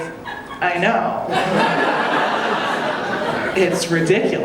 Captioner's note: audience laughing